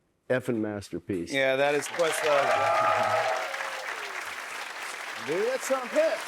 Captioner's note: cheers and applause